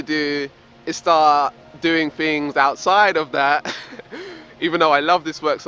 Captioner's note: laughs